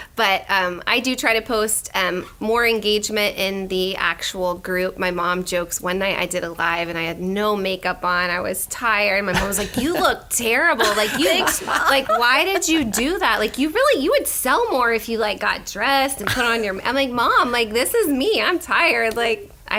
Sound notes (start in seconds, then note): 10.8 laughter